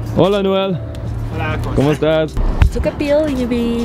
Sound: speaks foreign language

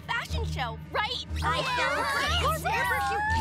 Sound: cheering

